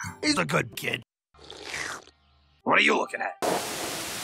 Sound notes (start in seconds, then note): 1.3 slurp